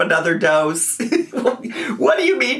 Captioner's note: laughs